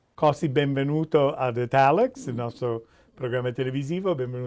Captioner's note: in Italian